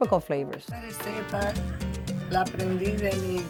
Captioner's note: speaking Spanish